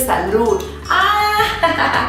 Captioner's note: laughs